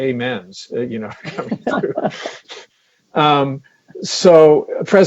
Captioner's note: laughs